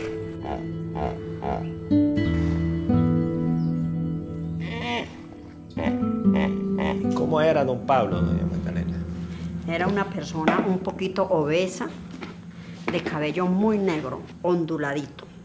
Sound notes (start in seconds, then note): 0.9 hippos screeches; 4.6 hippos screeches; 7.3 speaking in foreign language